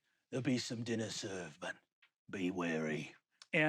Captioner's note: none